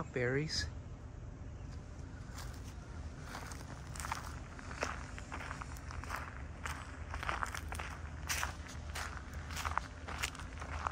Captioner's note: walking on gravel